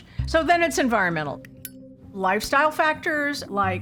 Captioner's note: lighter clicks